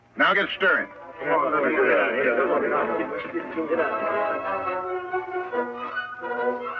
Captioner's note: men chattering; suspenseful music